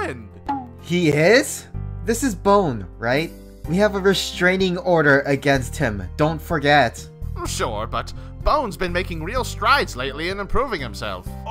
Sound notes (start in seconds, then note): none